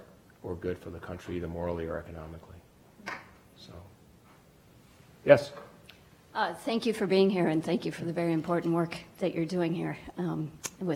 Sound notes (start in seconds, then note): 6.5 voiceover